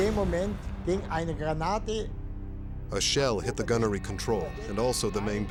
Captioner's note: speaking german